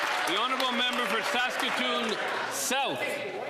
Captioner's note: applause